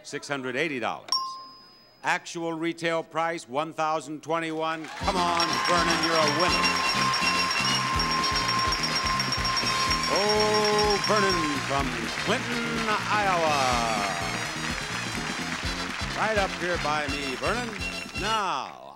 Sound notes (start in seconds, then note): 7.7 audience cheering